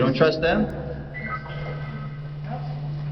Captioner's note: beeping